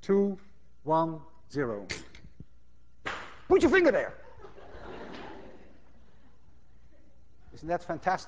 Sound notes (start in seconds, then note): 1.0 gun clicks; 4.4 class laughs